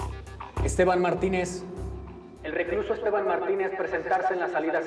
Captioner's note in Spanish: por altoparlantes